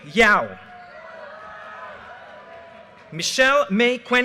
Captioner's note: audience cheers and applause